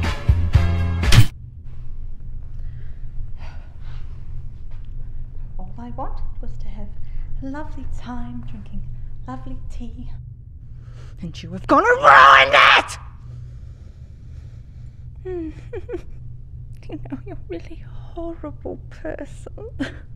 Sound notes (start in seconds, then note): 15.3 giggles